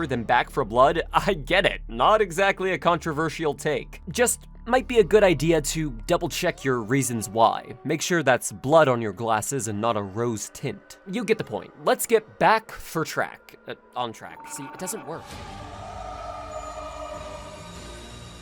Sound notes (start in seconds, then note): 13.5 quietly; 15.3 tense music